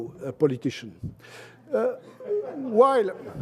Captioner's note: laughter